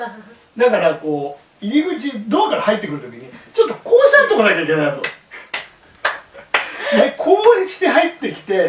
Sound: laughs

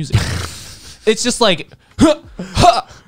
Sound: laughing

